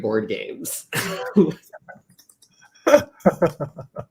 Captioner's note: laughter